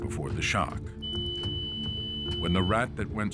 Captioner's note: tone beeps